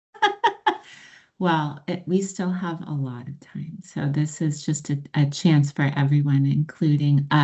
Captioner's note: laughs